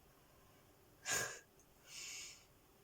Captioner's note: snort